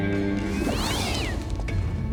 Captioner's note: cat screeches